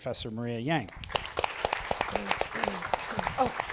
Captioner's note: applause